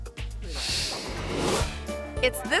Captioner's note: air whooshes